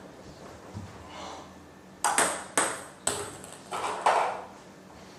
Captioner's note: balls ping pong hitting continues